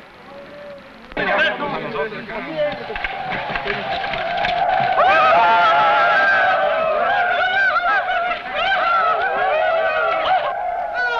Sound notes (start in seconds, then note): 1.3 men shouting; 2.8 tribal war shouting